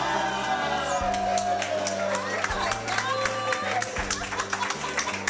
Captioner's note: clapping and Cheering